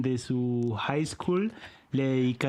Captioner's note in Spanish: none